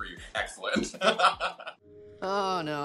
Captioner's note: laughing